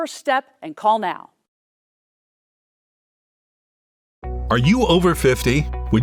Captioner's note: silence